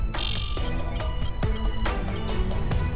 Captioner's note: computer beeping sounds; suspenseful music